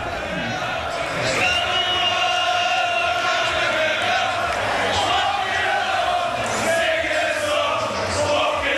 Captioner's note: crowd continue chanting "Ole, Ole, Ole"